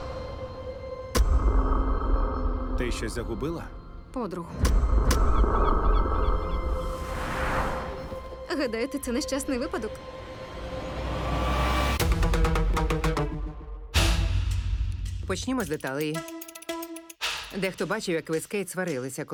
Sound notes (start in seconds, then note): 5.5 seagull squawking; 10.0 suspenseful music playing; 11.9 dramatic music playing